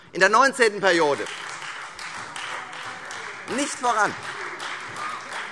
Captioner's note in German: Beifall Freie Demokraten